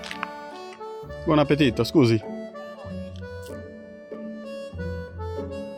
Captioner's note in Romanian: vorbind italiană